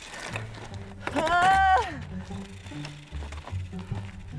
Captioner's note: grunting